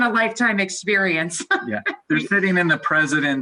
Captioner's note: laughing loudly